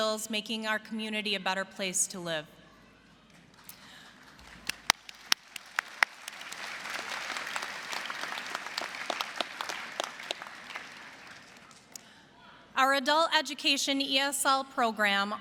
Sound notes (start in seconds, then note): 3.3 applause